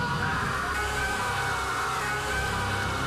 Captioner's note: screams